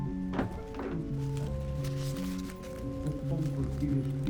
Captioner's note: man talking in unknown foreign language